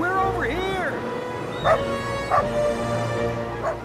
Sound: barking

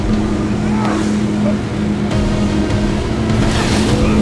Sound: Ben screams

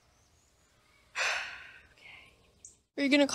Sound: exhale

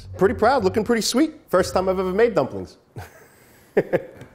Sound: laughs

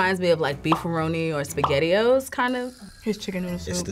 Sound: bubbles popping

